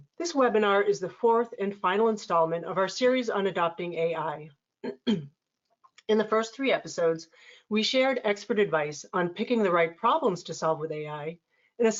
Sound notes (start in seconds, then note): 4.8 clears throat